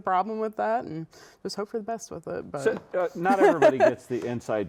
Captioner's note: laughs